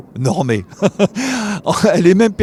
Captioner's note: laughter